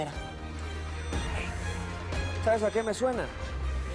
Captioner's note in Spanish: Bip continuo